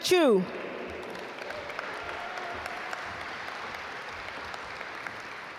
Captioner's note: audience applaud